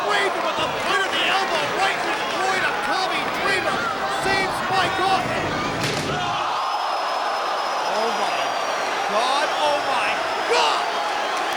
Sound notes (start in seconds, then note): 5.7 table crashing; 11.3 crowd vocalizing